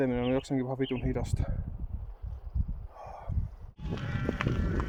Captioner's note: a deep breath